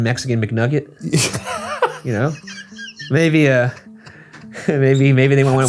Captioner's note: laughing